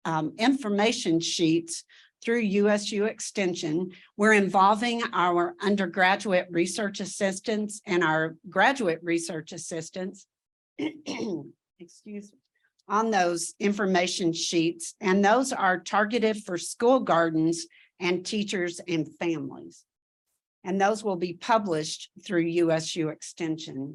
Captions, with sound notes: information sheets through USU Extension. We're involving our undergraduate research assistants and our graduate research assistants. [clears throat] Excuse me. on those information sheets, and those are targeted for school gardens and teachers and families, and those will be published through USU Extension